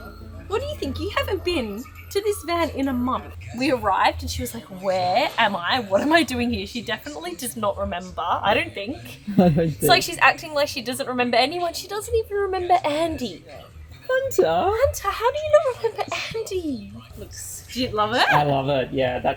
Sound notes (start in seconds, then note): 9.3 laughing